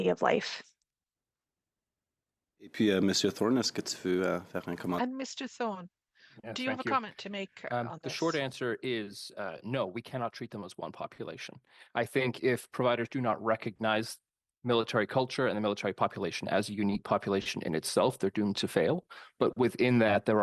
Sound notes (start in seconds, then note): 10.0 speaking French